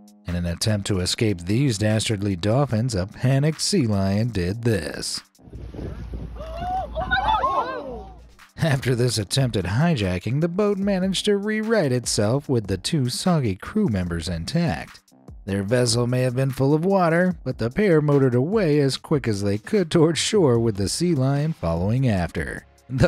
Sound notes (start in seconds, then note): 6.9 onlookers gasping